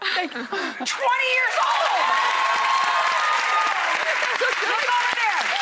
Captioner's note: audience cheers and applauds